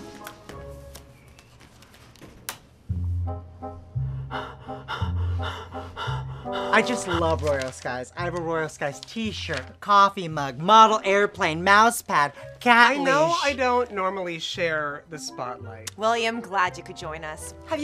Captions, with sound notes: (breathes heavy) - I just love Royal Skies. I have a Royal Skies t-shirt, coffee mug, model airplane, mousepad, cat leash- - I know I don't normally share the spotlight. - William I'm glad you could join us.